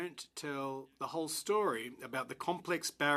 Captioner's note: speaking in french